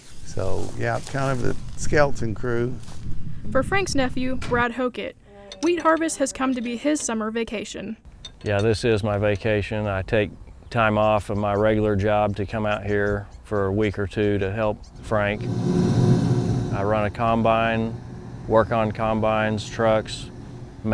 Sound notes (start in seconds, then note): 14.9 combine whirring